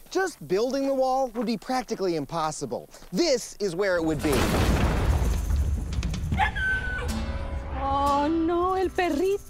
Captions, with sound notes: Just building a wall would be practically impossible. This is where it would be. (dog squeals)